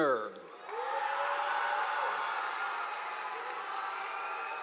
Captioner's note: audience applauding